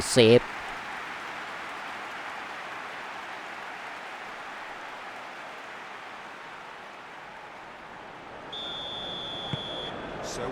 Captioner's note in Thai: ปรบมือ